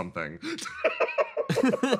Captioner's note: Etete Laugh; laugh